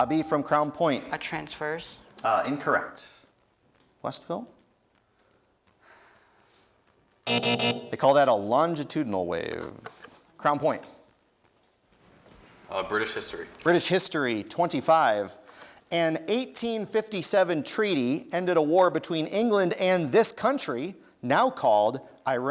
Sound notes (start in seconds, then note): 0.0 dinging; 7.2 buzzing